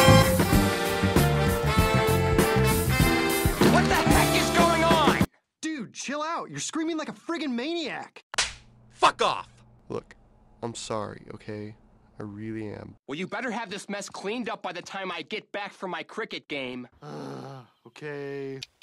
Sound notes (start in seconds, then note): 3.4 music stops playing; 8.3 smack; 17.0 groans